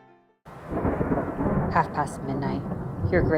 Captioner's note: storm rumbling